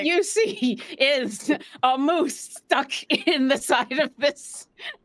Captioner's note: laughs